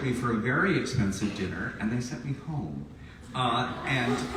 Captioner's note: audience laughs sympathetically